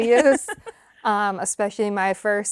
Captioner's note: laughs